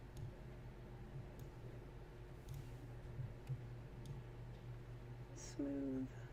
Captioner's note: clicks, etc